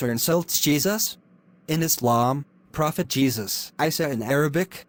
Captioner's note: Isa in Arabic